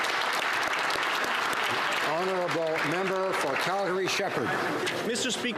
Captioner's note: applause